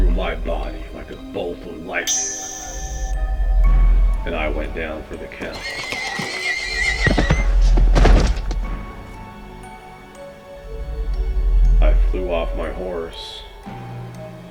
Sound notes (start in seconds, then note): 7.1 neighing horse collapsing; 7.1 piercing sound